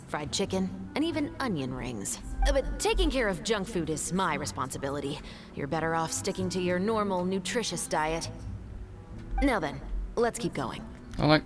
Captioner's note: moans